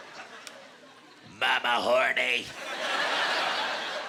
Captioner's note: in gruff voice